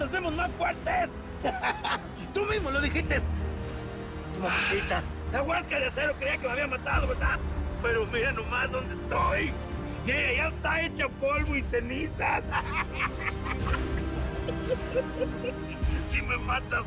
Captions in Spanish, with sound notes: NO MAS NOS HACEMOS MAS FUERTES. [Risas] TU MISMO LO DIJITES. TU MAMACITA... LA HUERCA DE ACERO CREIA QUE ME HABIAN MATADO, ¿VERDAD? PERO MIRA NO MAS DONDE ESTOY. Y ELLA YA ESTA HECHA POLVO Y CENIZAS. [Risas]